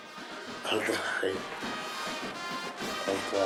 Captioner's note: laughs